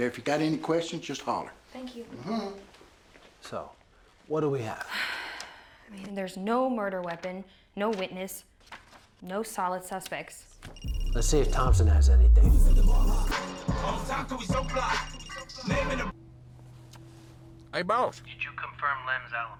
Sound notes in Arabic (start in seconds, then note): 10.7 رنين الهاتف الخليوي; 13.5 رنات الهاتف; 13.5 موسيقى راب عالية